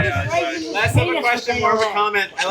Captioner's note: laughing